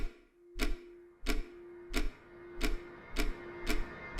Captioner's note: ticking speed increases